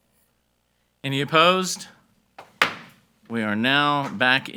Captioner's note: hammer slamming